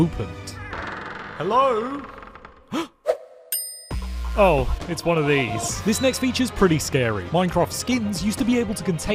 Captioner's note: gasp